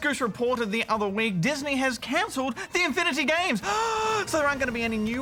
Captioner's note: gasps